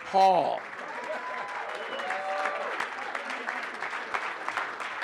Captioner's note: audience applauding